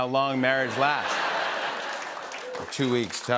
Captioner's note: laughter and applause